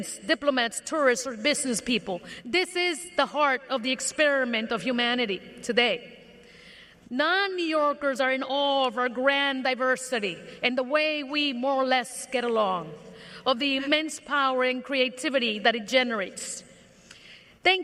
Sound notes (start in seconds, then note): none